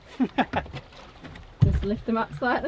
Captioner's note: laughing